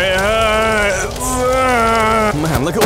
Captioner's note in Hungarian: fájdalmasan nyöszörög